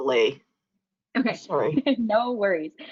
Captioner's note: laughs